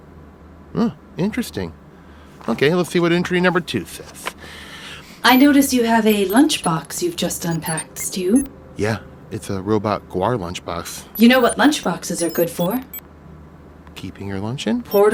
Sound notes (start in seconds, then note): none